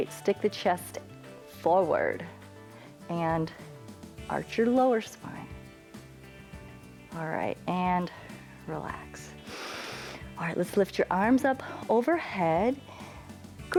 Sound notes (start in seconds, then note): 9.4 inhales